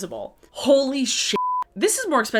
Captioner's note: beep